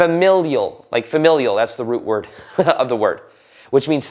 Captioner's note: laughing